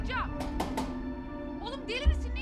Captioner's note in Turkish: Kapı vurma sesi